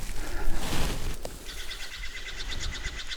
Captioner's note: bird calling